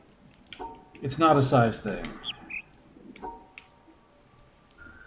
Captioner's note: bird chirps ˥ ˩